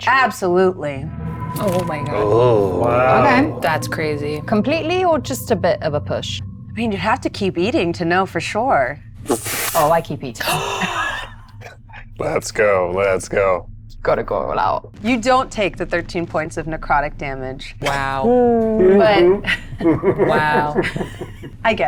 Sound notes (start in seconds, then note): 10.4 laughs; 18.4 laughs